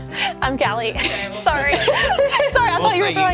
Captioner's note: laugh; laughs